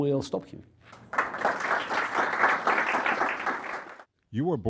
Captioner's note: applause